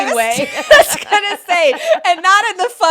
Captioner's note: both laughing